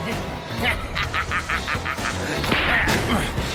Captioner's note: laughs